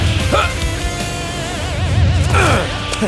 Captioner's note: whooshing; grunting